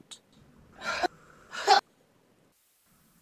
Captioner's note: 'ha' sounds